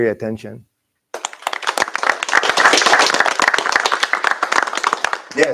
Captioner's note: applause